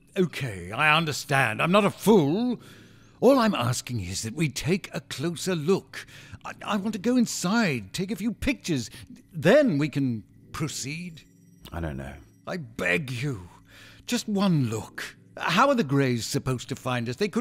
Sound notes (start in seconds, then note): none